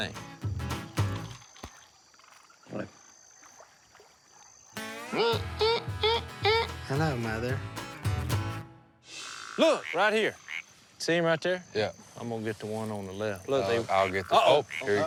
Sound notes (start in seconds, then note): 5.6 imitates theme